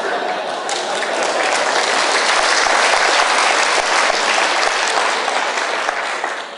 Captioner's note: applause